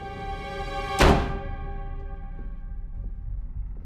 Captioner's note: tense music; door bangs